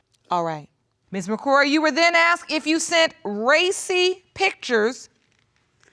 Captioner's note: none